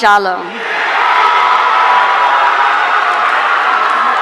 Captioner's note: audience cheering